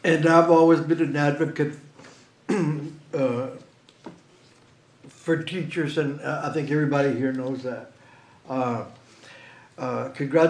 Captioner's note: clears throat; snorts